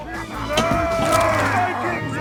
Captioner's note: viking yell